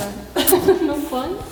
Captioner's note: laughing